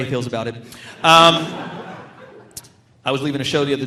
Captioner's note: audience laughing